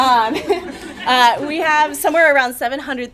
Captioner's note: chuckles